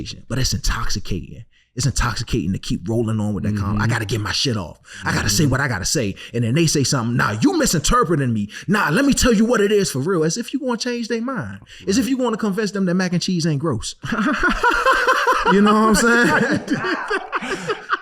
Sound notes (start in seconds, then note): 14.0 laughing